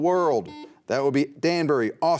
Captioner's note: buzzer beeping